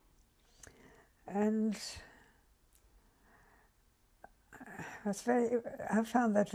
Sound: pauses for 3 seconds

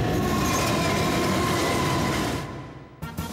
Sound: Duckman yelling; traffic noise

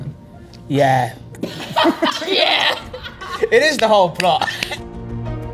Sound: laughing

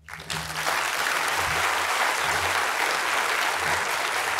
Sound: applause

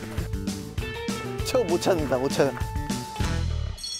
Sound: confident

